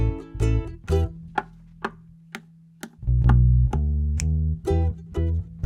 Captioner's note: knock knock slap slap knock knock snap